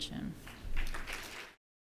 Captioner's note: audience clapping